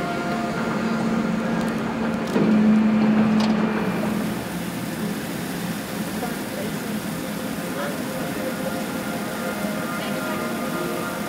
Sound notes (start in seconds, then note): 1.2 cameras snapping; 4.6 hose whooshing; 7.9 pensive music